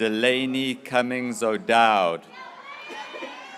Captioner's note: graduates cheering